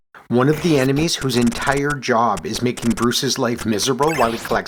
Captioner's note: none